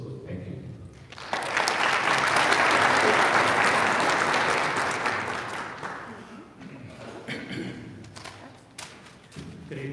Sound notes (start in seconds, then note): 1.0 audience applauding